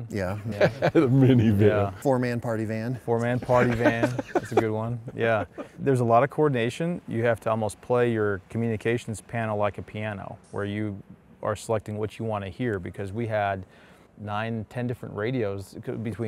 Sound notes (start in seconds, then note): 0.4 laughing; 3.3 laughing